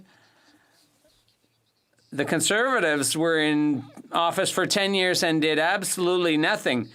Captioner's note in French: voix de l'interprète